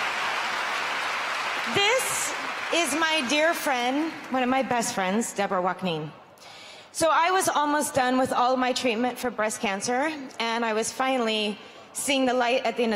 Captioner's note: cheers and applause